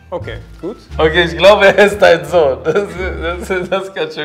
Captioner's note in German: lachend